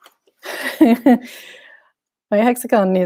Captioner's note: chuckles